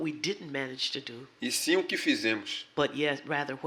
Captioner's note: speaking portuguese